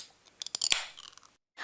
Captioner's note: nat pop - can opening :02